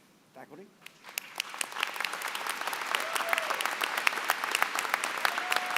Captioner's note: applause